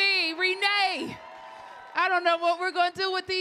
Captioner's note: audience clapping and cheering